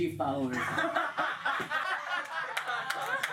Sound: all laugh

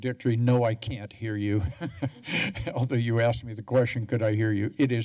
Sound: laughs

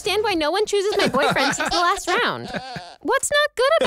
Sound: laughs

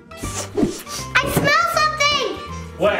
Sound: sniffs

